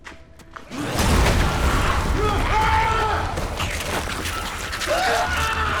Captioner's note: soldier screaming